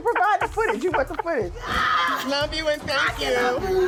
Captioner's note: screams